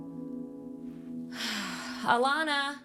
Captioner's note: sighs